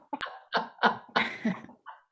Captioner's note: laughter